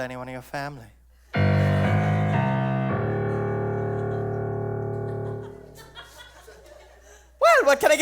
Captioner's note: ominous sound cue